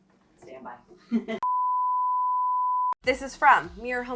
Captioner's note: beeping